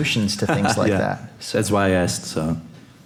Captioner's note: laughs